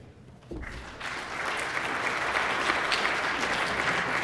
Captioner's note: applause